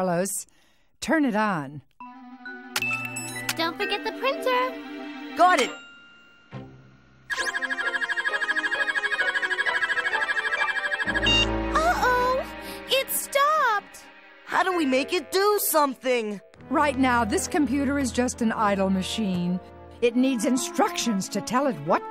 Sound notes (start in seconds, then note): 7.3 computer beeping rapidly